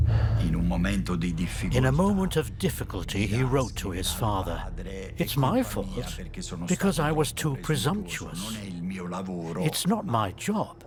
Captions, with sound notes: [in Italian] In a moment of difficulty he wrote to his father "It is my fault because I was too presumptuous. It is not my job